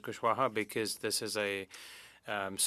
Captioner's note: speaking French